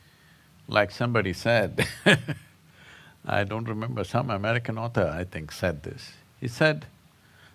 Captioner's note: laughs